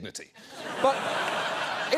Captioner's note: audience laughing